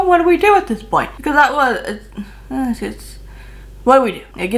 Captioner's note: sighs